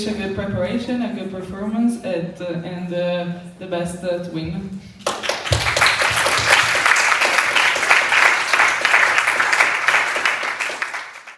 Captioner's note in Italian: Applauso